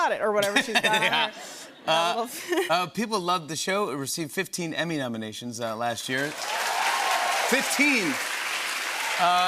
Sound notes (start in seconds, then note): 0.4 laughter; 6.1 cheering and applause